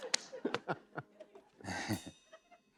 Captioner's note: chuckles